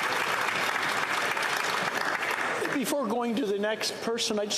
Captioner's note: some Applause